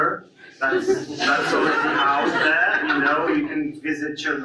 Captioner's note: audience laughs